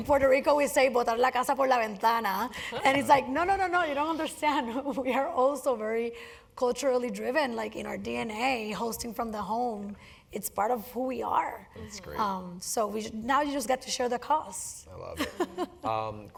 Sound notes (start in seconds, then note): 6.2 laugh